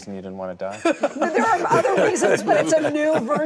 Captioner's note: laughter